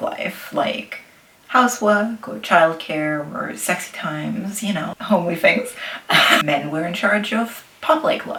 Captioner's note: laughs